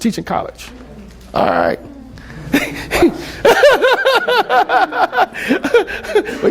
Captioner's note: laughs